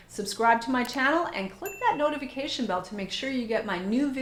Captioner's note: bell pinging